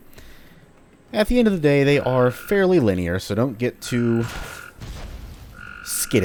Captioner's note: fwoosh